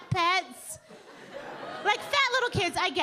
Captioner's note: audience laughing